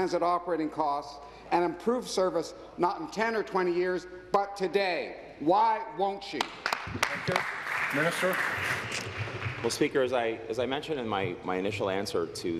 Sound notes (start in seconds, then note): 9.6 applause